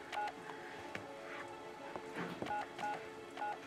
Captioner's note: phone beeping